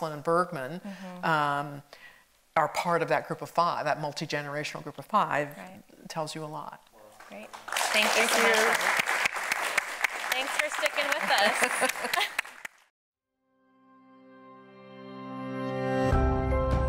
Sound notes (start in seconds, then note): 9.5 audience clapping; 11.0 laughs; 11.6 audience clapping; 13.6 chiming theme music